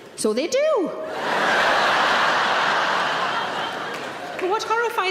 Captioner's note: audience laughing